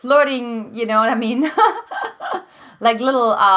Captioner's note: laughs